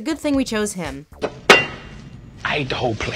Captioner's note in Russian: бдыщь